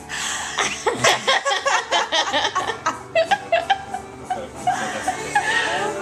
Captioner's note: laughter